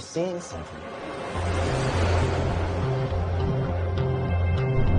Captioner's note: airplane swooshing